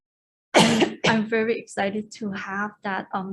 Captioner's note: coughs